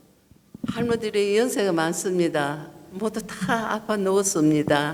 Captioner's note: speaking foreign language